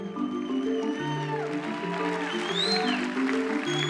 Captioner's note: cheers and applause